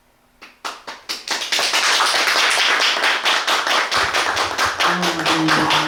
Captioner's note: applause